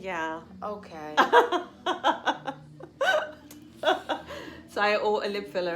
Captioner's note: laughs